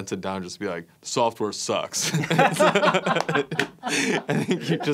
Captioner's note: laughs